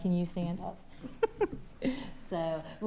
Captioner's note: laughing